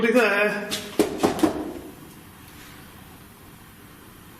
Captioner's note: door knocking